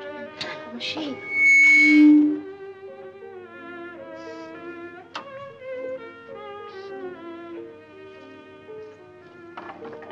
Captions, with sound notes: - Infernal machine. (Feedback shrieks) (Whispers)